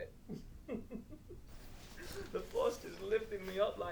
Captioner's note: Captain Brookes giggles